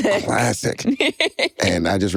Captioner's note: chuckles